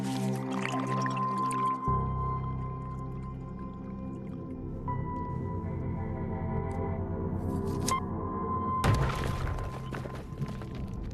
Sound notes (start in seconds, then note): 2.4 liquid bubbling; 10.9 thud